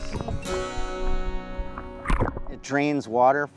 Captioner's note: water burbles